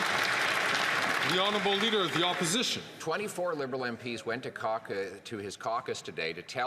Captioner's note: some Applause